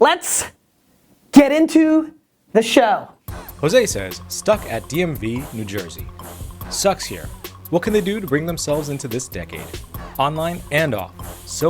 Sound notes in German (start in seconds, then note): 3.2 Voice-over